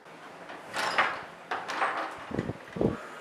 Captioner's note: door Open